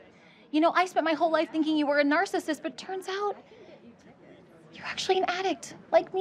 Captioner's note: none